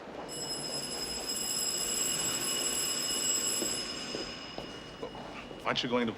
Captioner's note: bell Ringing